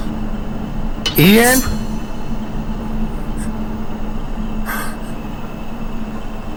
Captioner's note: gasping